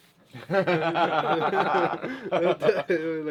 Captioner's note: laughing